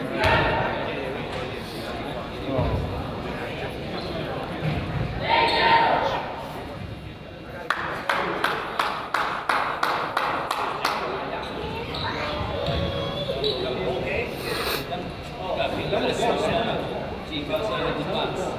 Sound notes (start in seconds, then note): 7.7 crowd applauds